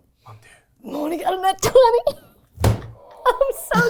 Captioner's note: table thuds